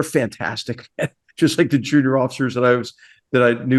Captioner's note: laugh